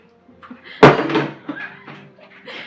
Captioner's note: water bottle crashes